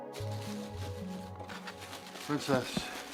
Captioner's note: plastic crinkling